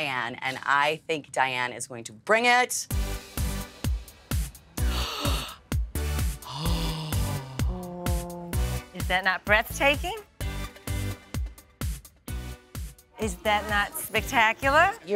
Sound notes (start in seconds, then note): 2.9 upbeat music; 6.4 gasps; 9.9 upbeat music